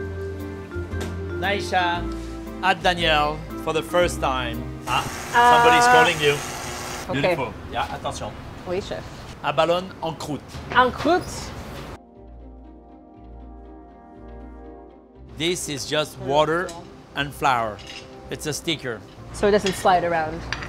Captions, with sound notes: Time to celebrate Nyesha at Daniel for the first time. (oven buzzing) Somebody's calling you. Beautiful, yeah? Attention. Oui, Chef. Abalone en croute. - En croute! (gentle music) - This is just water and flour, it's a sticker.